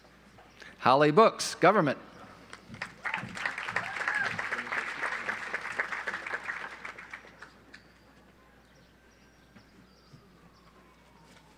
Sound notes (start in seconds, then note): 2.6 audience applauds